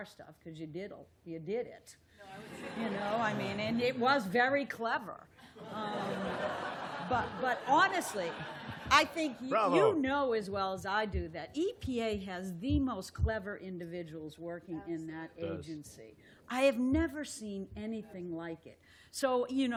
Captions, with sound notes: stuff, because you did it. And it was very clever. [LAUGHTER] But honestly, I think you know as well as I do that EPA has the most clever individuals working in that agency. I have never seen anything like it.